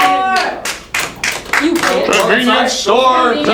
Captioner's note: clapping